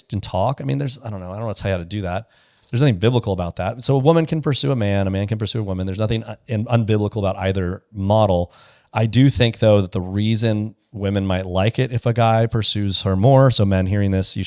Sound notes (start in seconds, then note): none